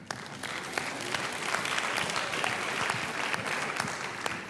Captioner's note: applause